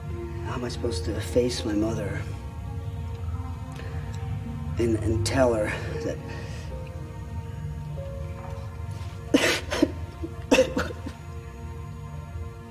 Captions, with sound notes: How am I supposed to face my mother... and tell her that... [cries]